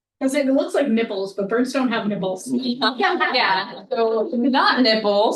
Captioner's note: audience laughing